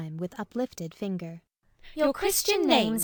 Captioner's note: speaking together